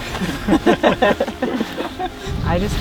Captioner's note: all laugh